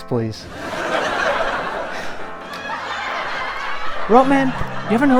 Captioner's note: audience Laughter